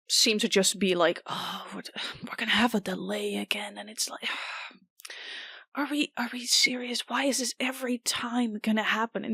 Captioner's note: sighs